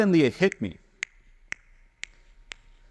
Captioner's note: snapping noise